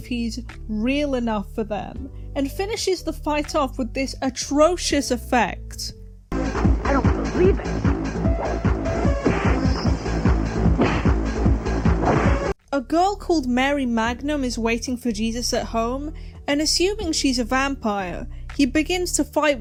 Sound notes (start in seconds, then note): 9.3 cartoon sound effects